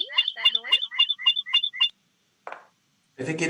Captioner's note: background feedback; background feedback